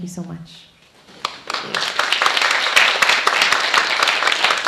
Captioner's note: applauding